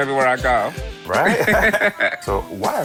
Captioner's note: both laughing